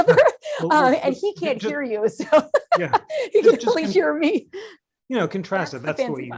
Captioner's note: laughter